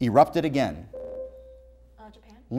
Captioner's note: buzzer